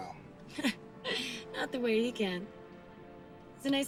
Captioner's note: laughs